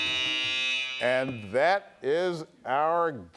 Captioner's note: buzzer buzzing